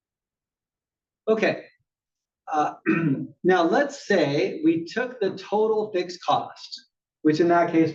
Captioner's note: cough